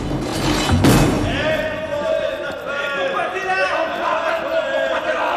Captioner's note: inmates shouting